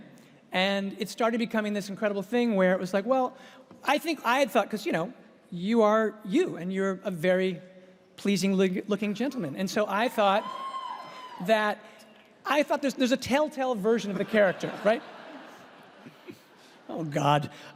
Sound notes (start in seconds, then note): 14.2 audience laughs